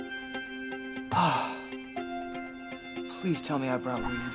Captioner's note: sighs